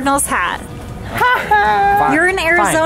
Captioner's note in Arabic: تضحك